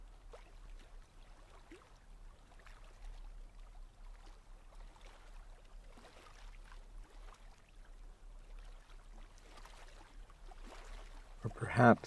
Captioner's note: pause